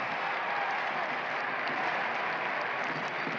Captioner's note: crowd cheering